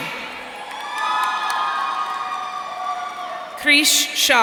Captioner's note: audience cheering